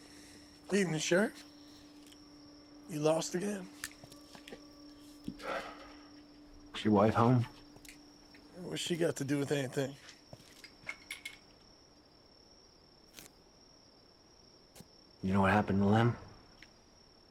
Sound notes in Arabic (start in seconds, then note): 5.2 تنهدات; 10.1 زقزقة الصراصير